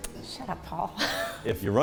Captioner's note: laughs